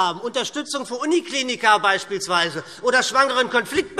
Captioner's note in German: none